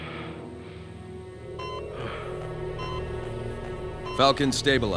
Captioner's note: beeping